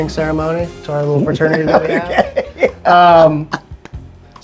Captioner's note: laughing